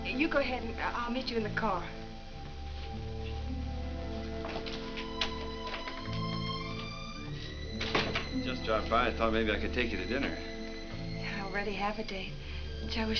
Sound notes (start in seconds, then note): 7.7 door closes